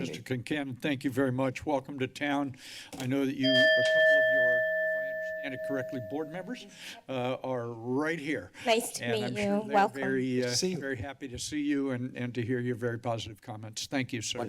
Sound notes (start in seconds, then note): none